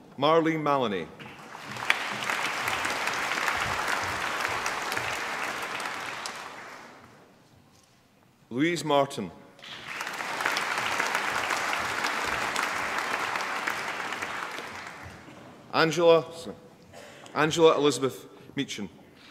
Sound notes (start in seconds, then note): 1.2 applause; 9.6 applause